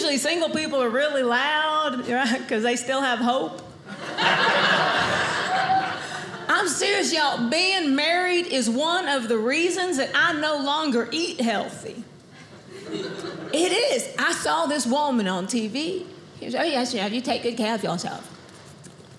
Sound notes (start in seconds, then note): 3.9 audience laughing